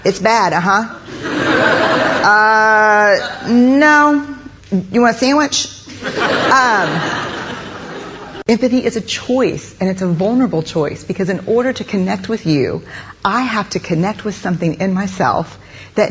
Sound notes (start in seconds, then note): 1.0 audience laughing; 5.9 audience laughing